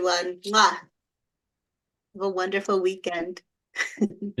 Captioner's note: chuckles